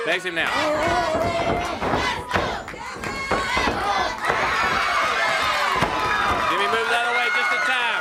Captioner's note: crowd cheering